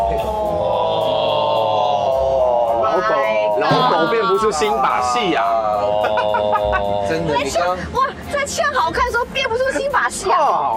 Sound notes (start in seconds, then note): 3.4 mocking